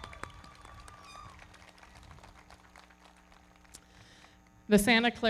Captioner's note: audience cheering; everybody clapping